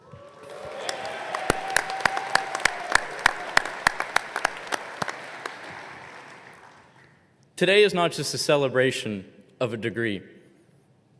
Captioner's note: applause